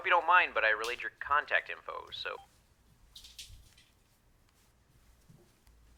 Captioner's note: machine beeping